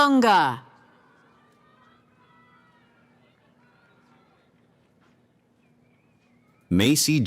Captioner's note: cheering